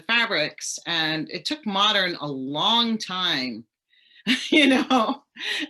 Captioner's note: chuckles